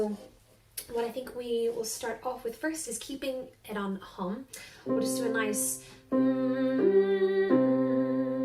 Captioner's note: humming